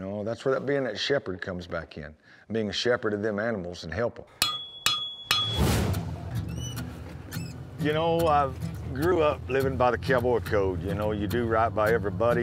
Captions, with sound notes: THAT'S WHERE THAT BEIN' A SHEPHERD COMES BACK IN. BEING SHEPHERD OF THEM ANIMALS AND HELPING 'EM. [STRIKING HORSESHOE] YOU KNOW, I GREW UP LIVING BY THE COWBOY CODE. YOU KNOW, YOU DO RIGHT BY EVERYBODY